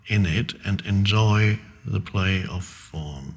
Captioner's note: none